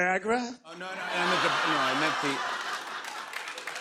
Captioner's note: laughter; applause